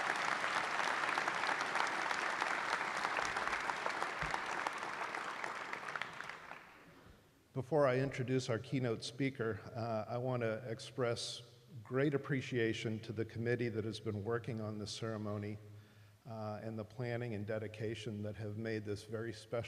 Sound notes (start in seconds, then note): 4.6 applause